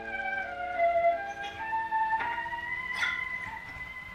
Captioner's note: static crackling